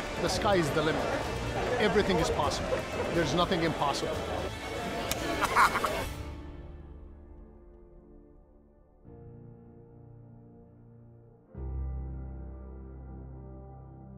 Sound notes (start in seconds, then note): 5.3 man laughs